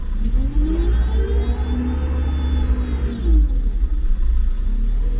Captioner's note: truck engine whirring